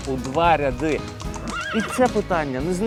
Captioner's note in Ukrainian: звук коней